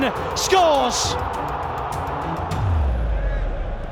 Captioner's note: crowd erupts